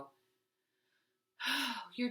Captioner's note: sighs